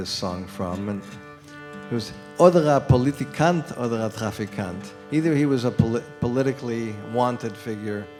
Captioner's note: non-english speech